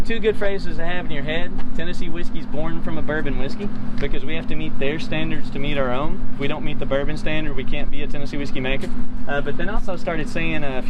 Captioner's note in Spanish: voces